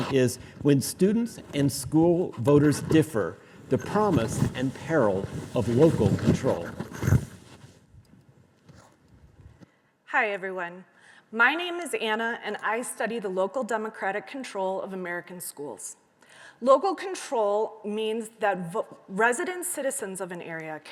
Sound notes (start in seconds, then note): none